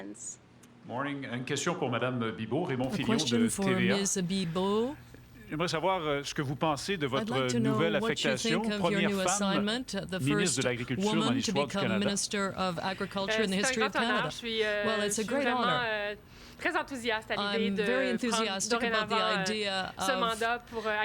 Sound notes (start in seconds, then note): 7.1 speaking french